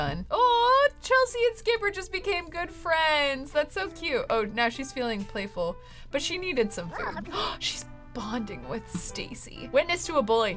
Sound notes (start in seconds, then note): 6.9 gasps